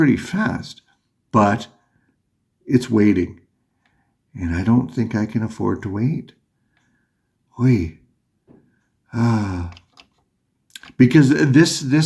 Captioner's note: huffs